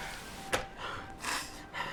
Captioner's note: door clicks open